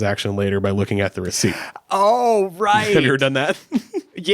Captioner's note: gasps; chuckles